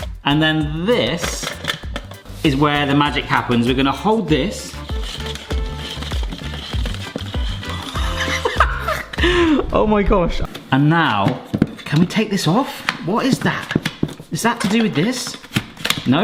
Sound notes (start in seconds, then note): 4.9 spiralizer rattling; 4.9 upbeat music; 7.6 laughs